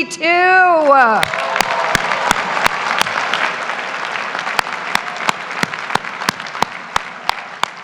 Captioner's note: graduates cheer; claps; graduates applaud